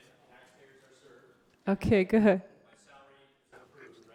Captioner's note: speaks off microphone